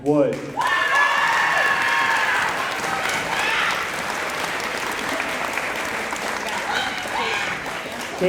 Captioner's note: applause